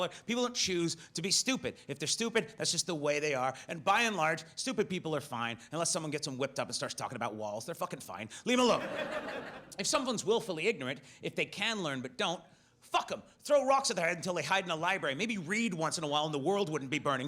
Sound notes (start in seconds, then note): 8.6 audience laughs